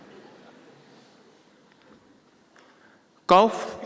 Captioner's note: laughter